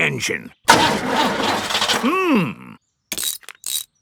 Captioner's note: engine sputtering